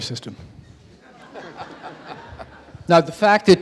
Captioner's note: audience laughing